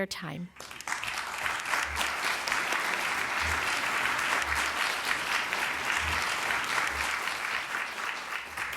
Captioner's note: applause